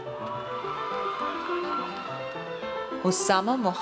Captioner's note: audience cheers